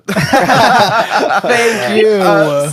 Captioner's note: hosts laughing